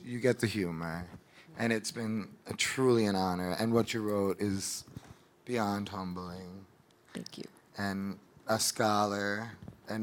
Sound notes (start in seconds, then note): none